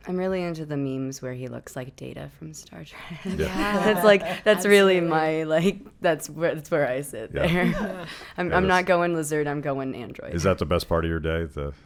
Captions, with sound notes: I'm really into the memes where he looks like Data from Star Trek. (laughing) That's really my, that's where I sit there. I'm not going lizard, I'm going android. Is that the best part of your day,